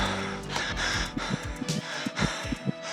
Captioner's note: heart beating